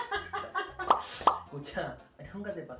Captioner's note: pop, pop